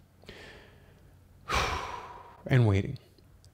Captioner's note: sighs